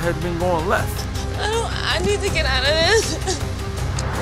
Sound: crying

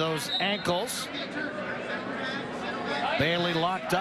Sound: whistle

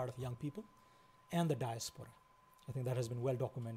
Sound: foreign language

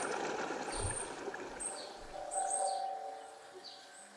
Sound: birds chirping

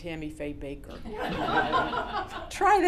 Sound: laughter

